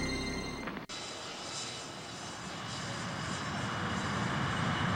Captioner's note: jet roaring